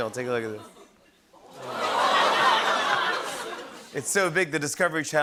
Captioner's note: audience gasps